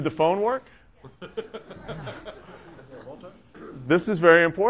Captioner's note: laughter